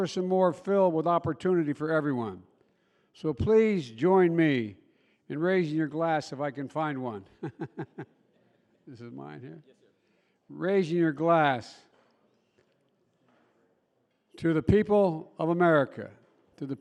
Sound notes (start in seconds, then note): 7.4 laughs